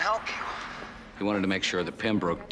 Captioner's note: Bennett on phone